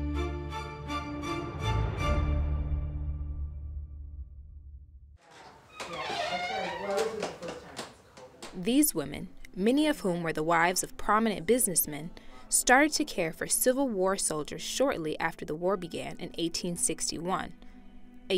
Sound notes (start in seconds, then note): 5.2 door creaking; 6.9 Lydia and Fanny chattering